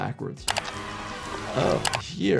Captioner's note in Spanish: gente gritando